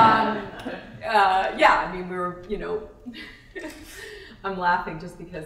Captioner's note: laughter